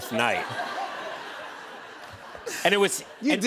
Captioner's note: laughter